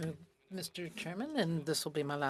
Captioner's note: speaking French